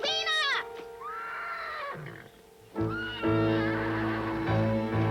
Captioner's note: horse whinnying; dramatic music